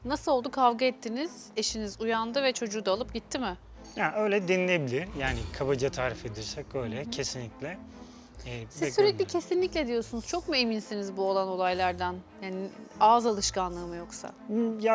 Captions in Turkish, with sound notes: Nasıl oldu? Kavga ettiniz, eşiniz uyandı ve çocuğu da alıp gitti mi? Ya öyle dinilebilir yani. Kabaca tarif edirsek öyle. Kesinlikle. [homurdanır] Eee, siz sürekli kesinlikle diyorsunuz. Çok mu eminsiniz bu olan olaylardan? Yani ağız alışkanlığı mı yoksa?